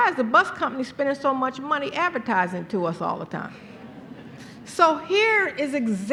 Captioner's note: laughter